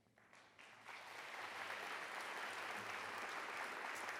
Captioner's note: audience applauds